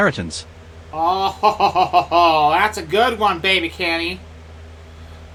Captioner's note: forced laugh